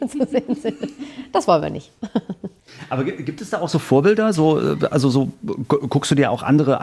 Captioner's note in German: gelächter